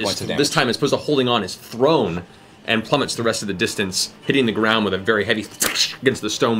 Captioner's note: splat